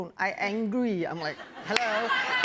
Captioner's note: laughter